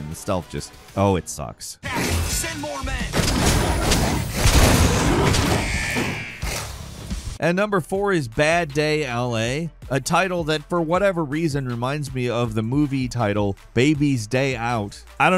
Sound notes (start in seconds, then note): 3.0 punches smashing; 4.9 werewolf growling; 5.6 alarm ringing